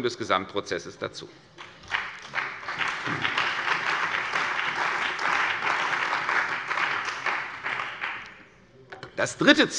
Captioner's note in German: Beifall bei der CDU und dem BÜNDNIS 90/DIE GRÜNEN